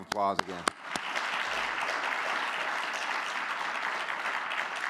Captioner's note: audience clapping